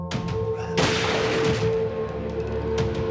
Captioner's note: gun fires; chilling music continuing